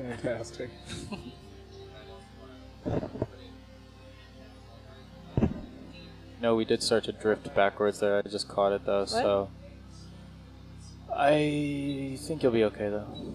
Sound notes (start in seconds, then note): 0.3 indistinct chatters; 1.6 ambient music